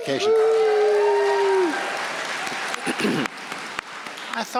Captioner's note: audience cheering; audience applauding